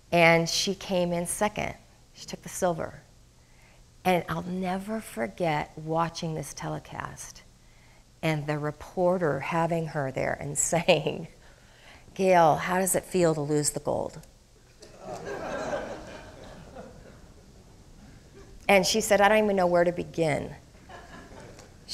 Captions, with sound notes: and she came in second, she took the silver. And I'll never forget watching this telecast, and the reporter having her there and saying, "Gail, how does it feel to lose the gold?" (crowd laughing) And she said, "I don't even know where to begin."